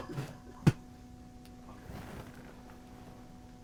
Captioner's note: spits